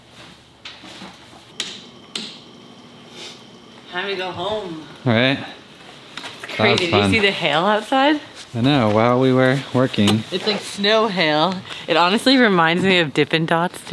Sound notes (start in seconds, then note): 2.1 light switch clicks